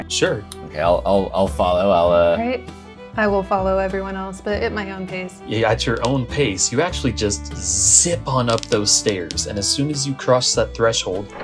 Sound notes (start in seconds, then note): none